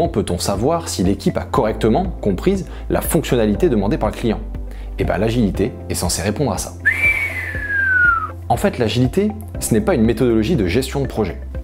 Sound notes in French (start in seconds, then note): 6.8 sifflement